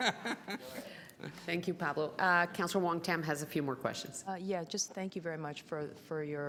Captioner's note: laughter